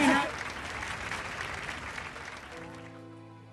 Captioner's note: applause; soft, dramatic music plays